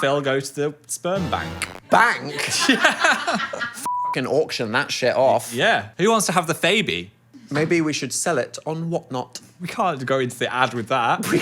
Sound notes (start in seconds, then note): 2.2 group laughing; 3.8 beep